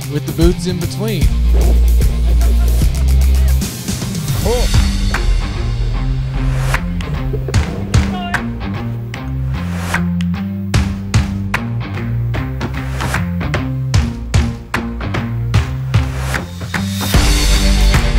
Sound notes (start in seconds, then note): 1.2 laughing; 4.9 upbeat music